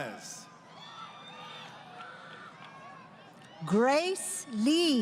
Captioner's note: crowd Cheering